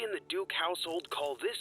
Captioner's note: wires sparking